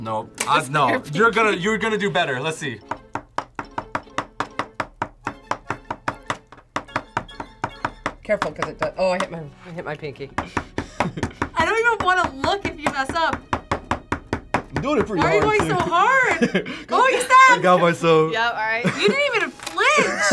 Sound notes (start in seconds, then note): 10.8 laughs